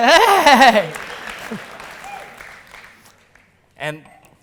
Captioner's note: audience applause